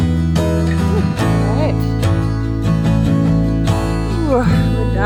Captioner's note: sighs